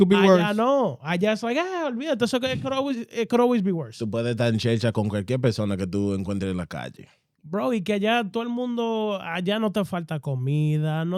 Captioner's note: speaking In Foreign Language